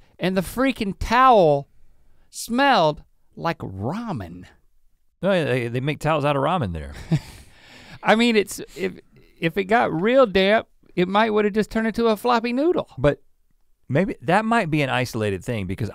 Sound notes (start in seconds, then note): 6.9 chuckles